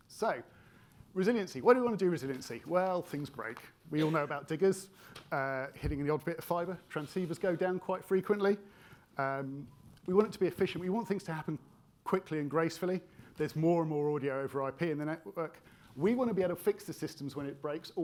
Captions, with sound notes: So, resiliency, what do we wanna do resiliency? Well, things break. We all know about diggers (attendee coughing) hitting the odd bit of fibre. Transceivers go down quite frequently. We want it to be efficient. We want things to happen quickly and gracefully. There's more and more audio over IP in the network. We wanna be able to fix the systems when it breaks